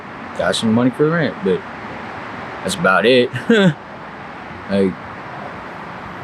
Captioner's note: chuckles